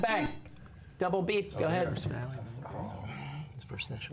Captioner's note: whispering